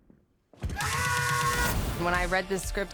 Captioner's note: screams